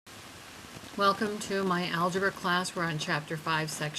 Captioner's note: voiceover